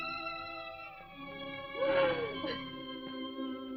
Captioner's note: weeping